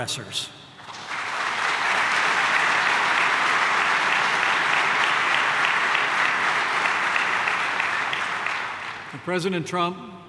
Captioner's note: applause